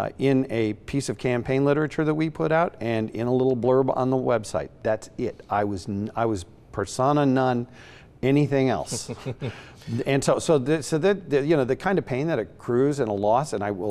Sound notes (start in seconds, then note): 8.8 laughs